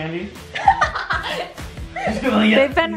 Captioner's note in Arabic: ضحك